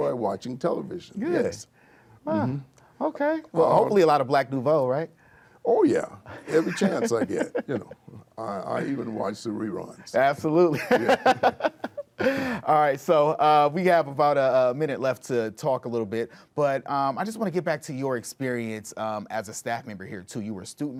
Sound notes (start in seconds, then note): 10.7 laughter